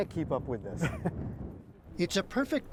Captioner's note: laughter